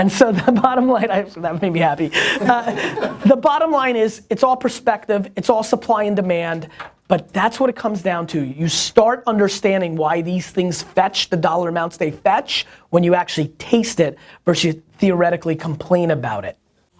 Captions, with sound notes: And so the bottom line - that made me happy. (laughter) The bottom line is, it's all perspective, it's all supply and demand, but that's what it comes down to, you start understanding why these things fetch the dollar amounts they fetch when you actually taste it, versus you theoretically complain about it.